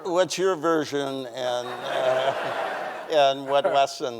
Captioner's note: audience laughing